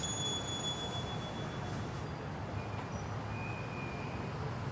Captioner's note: bell tinkling